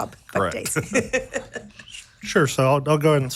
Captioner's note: laughing